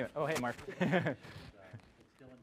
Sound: laugh

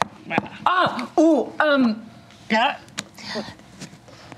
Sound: grunting

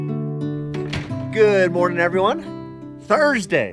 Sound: door clicking

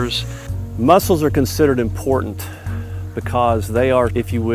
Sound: voiceover

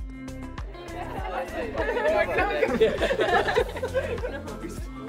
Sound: loud chatting

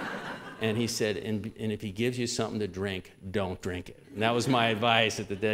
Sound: laughter; laughter

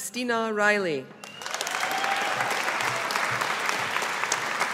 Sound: audience applauding

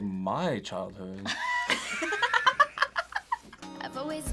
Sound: both laugh

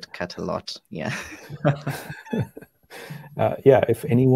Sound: all laugh

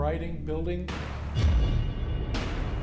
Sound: gunshots

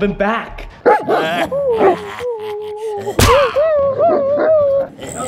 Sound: clown noises, Dogs barking

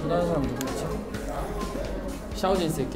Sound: laughing

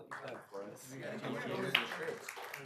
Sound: applause

